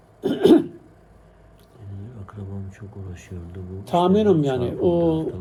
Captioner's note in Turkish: boğazını temizler